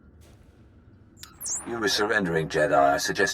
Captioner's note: Holocom beeping